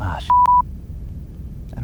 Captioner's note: beep